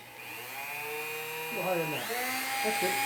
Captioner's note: machine whirs